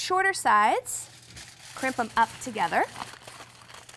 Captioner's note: foil rustling